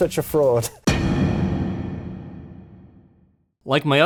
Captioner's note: thud sound effect